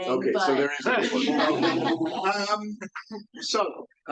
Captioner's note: audience laughs